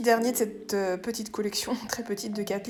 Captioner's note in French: rire